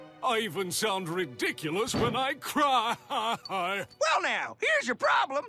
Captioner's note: crying